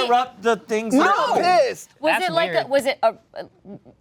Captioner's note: overlapping chatter